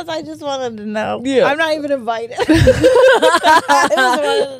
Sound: both laughing

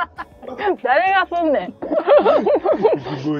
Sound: laughs

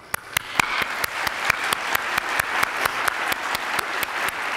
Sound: attendees applauding

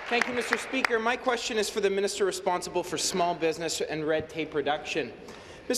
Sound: applause

